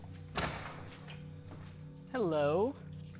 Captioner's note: door clicking